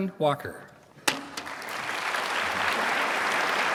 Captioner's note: applause